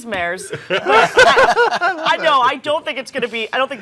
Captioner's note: all laughing